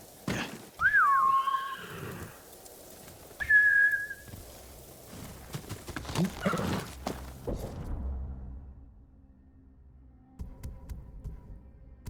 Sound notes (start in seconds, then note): 0.8 whistling; 3.7 footsteps thudding